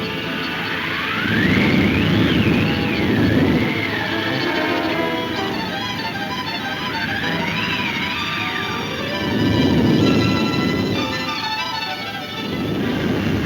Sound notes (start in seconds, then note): 0.1 wind whooshing; 2.4 dramatic music; 6.4 wind blowing